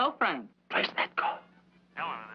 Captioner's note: on phone